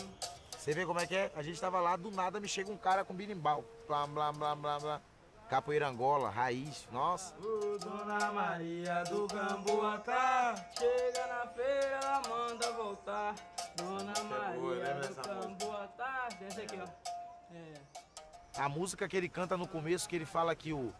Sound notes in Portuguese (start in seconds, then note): 3.8 imitando berimbau